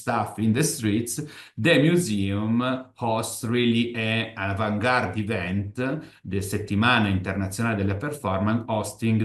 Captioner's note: italian